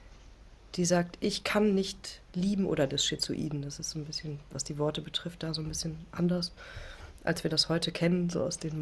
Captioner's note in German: none